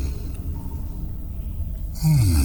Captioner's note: cave noises